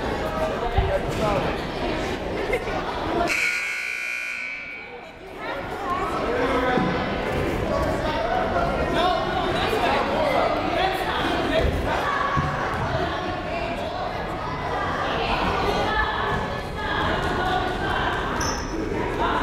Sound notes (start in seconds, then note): 3.2 buzzer sounding; 12.3 crowd chatting